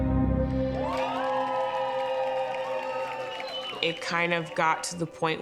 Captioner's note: cheers and applause